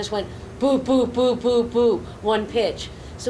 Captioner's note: low pitched rhythmic grunting